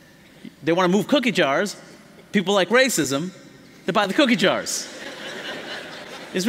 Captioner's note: laughter